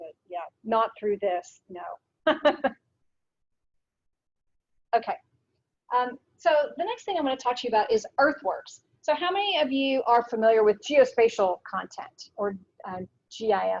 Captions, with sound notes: Not through this, no. (laughs) Okay. So, the next thing I wanna talk to you about is EarthWorks. So, how many of you are familiar with geospatial content, or GIS data?